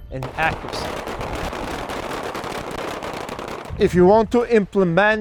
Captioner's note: guns firing